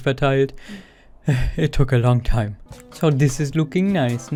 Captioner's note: sigh